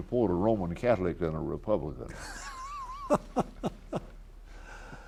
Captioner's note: laughs